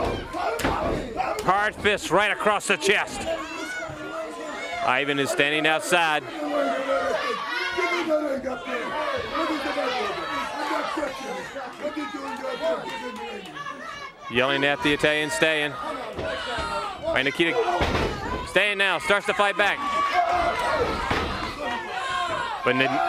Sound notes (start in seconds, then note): 6.2 crowd chatter